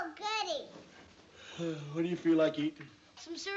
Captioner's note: yawns